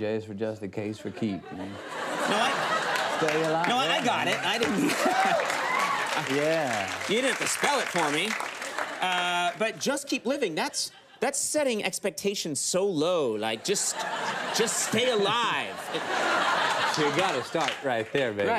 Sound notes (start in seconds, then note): 1.0 studio audience laughs; 4.2 studio audience claps; 15.9 studio audience laughs